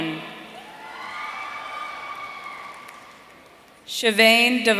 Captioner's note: audience cheering